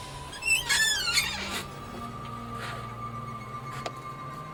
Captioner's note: door creaking